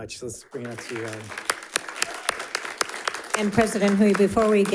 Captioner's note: audience applauding